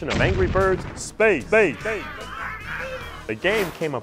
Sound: sound Effects

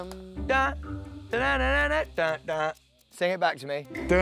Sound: hums groovy blue ringtone; hums groovy blue ringtone

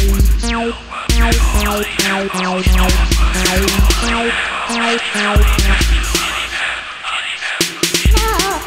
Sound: multiple massed up glitchy voices

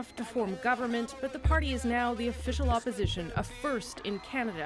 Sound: cheers and Applause

